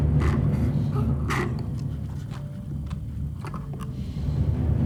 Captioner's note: dramatic music; Jim sipping